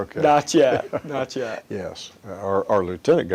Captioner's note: chuckles